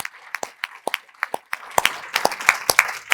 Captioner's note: applause